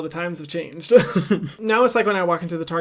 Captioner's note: laughs loudly